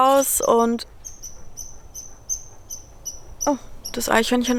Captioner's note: loud beeping in the background